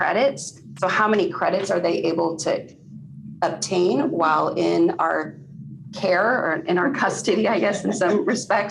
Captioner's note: laughter